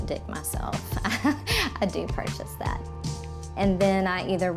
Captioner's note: chuckles